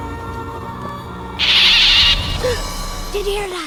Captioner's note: pelican squawks